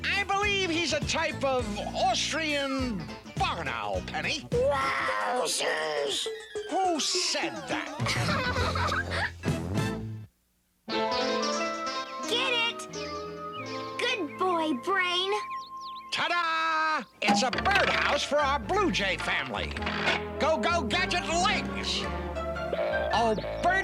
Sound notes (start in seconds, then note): 7.7 laughing